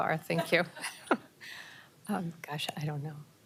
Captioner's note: laughter